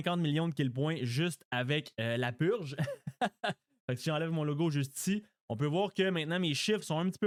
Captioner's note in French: rires